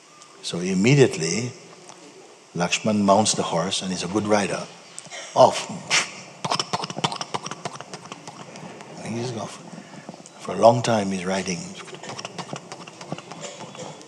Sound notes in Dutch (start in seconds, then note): 6.4 galloperende geluiden; 11.6 galloperende geluiden en gelach